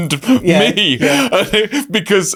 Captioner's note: laughing